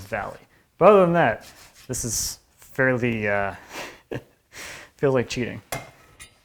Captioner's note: chuckling